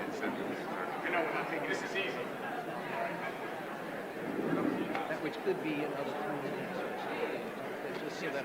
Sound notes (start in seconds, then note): 1.5 indistinguishable chatter